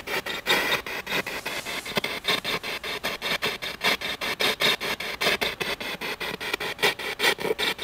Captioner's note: radio noise from the spirit box